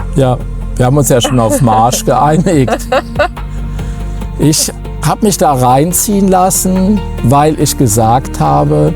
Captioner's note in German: gelächter